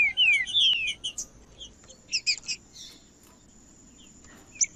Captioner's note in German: trinca ferro cantando; trinca ferro cantando